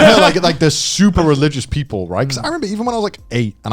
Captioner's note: both chuckling